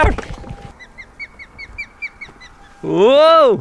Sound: loud chirping

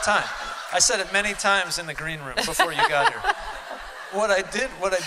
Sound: laughter

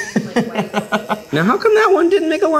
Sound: laughing

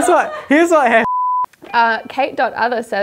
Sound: beep

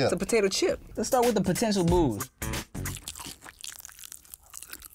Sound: chewing loudly

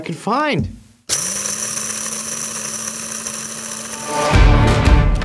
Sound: coffee maker grinding; dramatic music

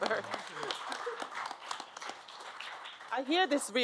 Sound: applause

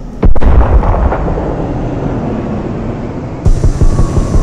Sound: explosions booming

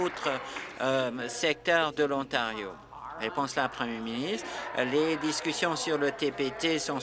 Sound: some Applause

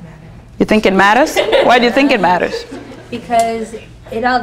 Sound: students laughing

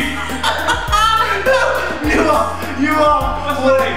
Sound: laughter

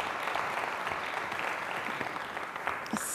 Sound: applause

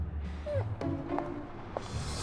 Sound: whimper

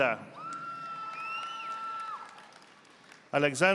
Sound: audience applauding

